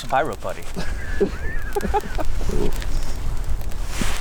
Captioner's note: laughing